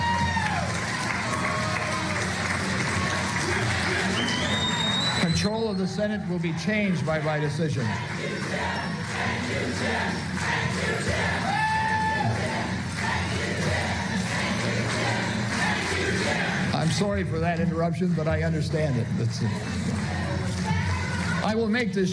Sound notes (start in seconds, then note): 4.2 applause